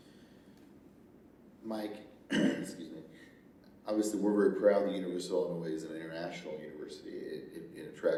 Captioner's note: clears throat